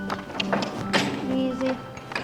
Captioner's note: clicks tongue